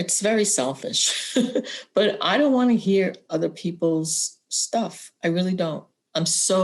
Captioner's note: laughter